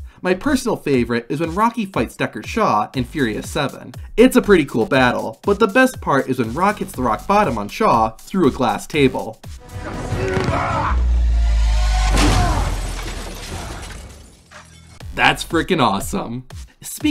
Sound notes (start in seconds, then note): 9.6 grunting and fighting; 11.6 glass shattering